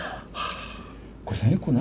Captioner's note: sigh